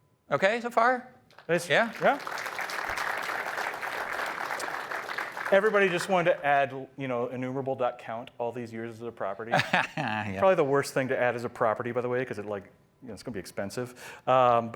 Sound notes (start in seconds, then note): 1.3 applause